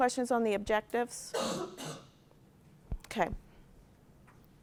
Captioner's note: cough